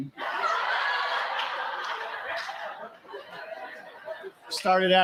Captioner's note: laughter